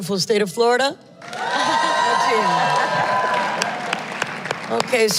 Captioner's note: cheers and Applause